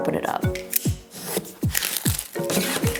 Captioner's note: knife clicks; knife scraps box